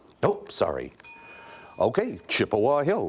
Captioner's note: bell dings